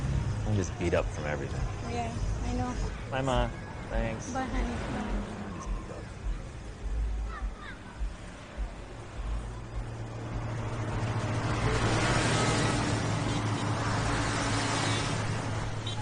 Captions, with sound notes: I'm just beat up from everything. - Yeah, I know. - Bye Ma. Thanks. - Bye, honey. (traffic swooshing and honking)